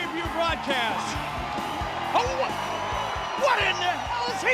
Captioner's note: crowd cheering